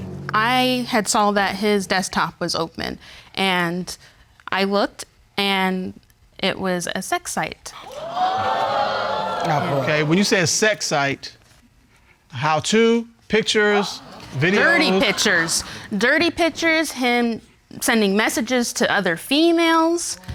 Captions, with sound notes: I had saw that his desktop was open, and I looked, and it was a sex site. [audience exclaiming] Okay, when you say a sex site... How to? Pictures? Videos? Dirty pictures. Dirty pictures, him sending messages to other females.